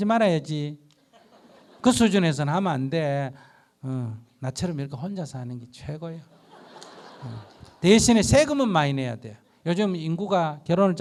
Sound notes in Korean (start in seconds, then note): 6.3 청중 웃음